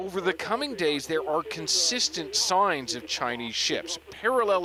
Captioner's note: speaking alternate language